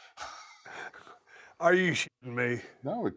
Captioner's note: laugh